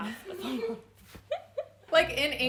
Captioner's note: laughing